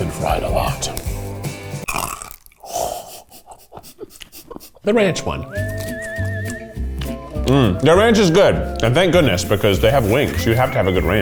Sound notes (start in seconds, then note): 1.8 crunches and laughs; 5.1 upbeat music